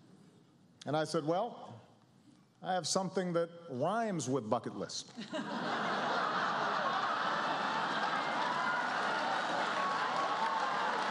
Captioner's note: rhymes; laughter